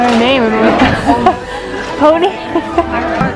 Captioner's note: laughs